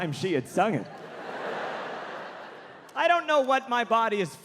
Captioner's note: audience laughing